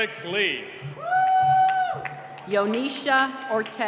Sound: cheering

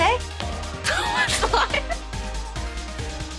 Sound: laughing

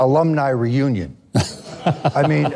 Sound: laughing

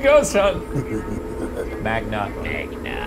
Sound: laughs sinisterly

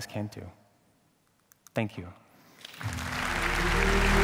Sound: applause

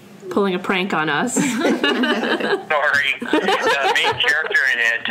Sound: laughs

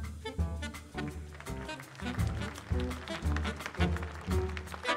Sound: audience applauds

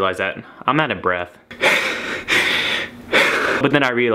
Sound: deep inhales

